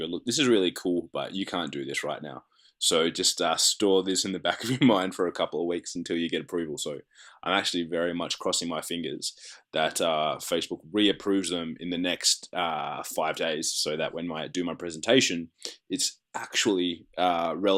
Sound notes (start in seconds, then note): 4.2 laughs